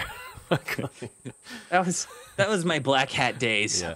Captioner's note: laughs